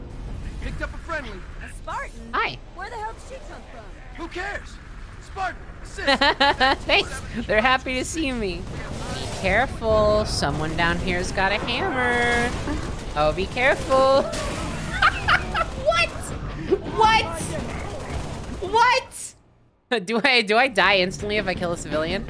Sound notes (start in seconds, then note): 6.0 laughing; 14.2 laughing